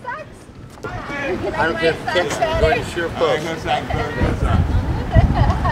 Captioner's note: background chatter